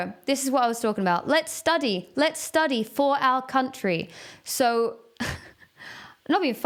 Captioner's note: giggles